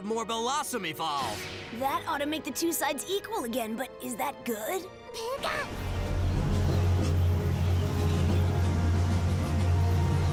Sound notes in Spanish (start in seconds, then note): 4.8 preocupado